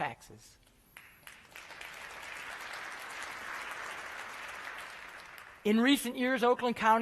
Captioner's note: applause